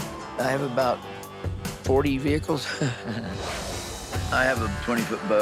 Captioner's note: laughs